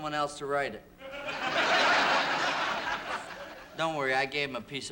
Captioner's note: laughter